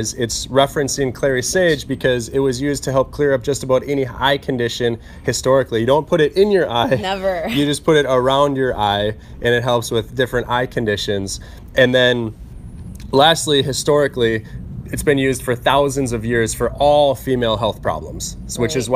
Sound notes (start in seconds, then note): 6.7 laughs